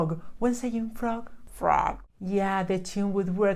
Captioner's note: croaking